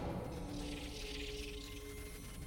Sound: replicators twittering

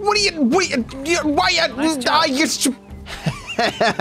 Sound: speaks gibberish; laughs

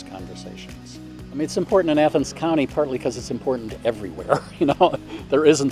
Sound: chuckles

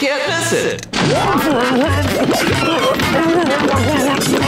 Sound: groaning, gagging

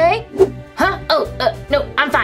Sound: whoosh

